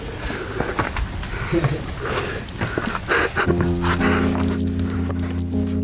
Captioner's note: camera man chuckles